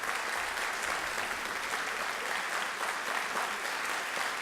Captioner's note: applause Intensifies